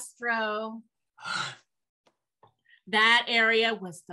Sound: gasps

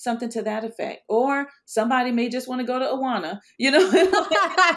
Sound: laughs; both laughing

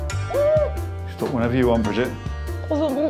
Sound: whistle blows

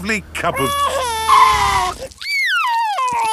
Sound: tires screeching; crying

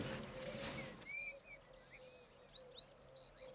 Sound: birds chirping

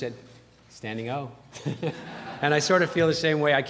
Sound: laughter

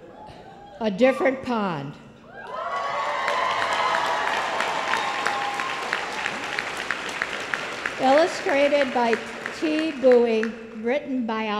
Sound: applause

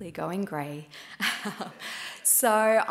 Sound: laughs

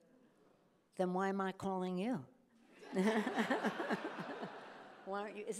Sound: chuckles

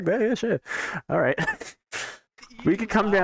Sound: laughs

